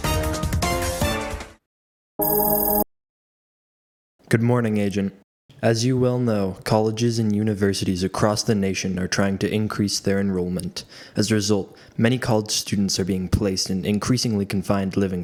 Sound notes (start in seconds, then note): 2.2 computer Chimes